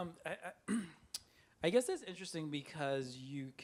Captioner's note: clears throat